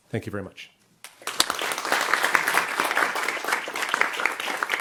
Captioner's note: audience applauds